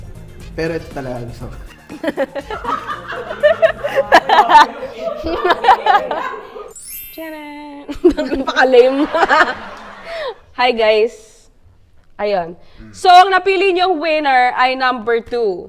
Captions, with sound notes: But what I really like is this one. (laughs) - That's so lame. (laughs) Hi guys! So the winner you've chosen was number two.